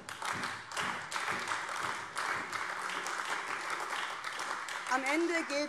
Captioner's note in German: Beifall AfD